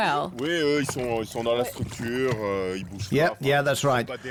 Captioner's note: speaking French